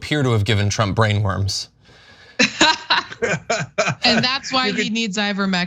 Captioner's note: laugh